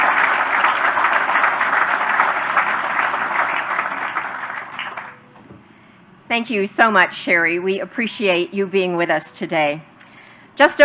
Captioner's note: applause